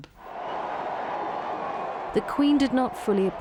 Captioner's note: crowd cheering loudly